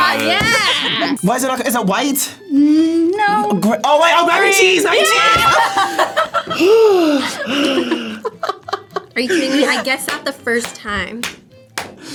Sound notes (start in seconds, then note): 5.2 both laugh; 6.5 sighs; 8.3 laughs